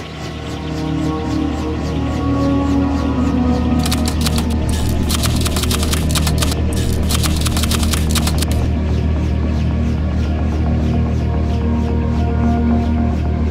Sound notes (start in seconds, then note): 0.1 somber music; 3.8 typewriter clicking